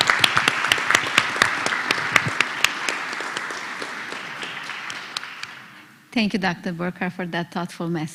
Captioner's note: applause